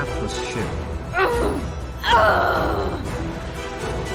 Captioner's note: shouting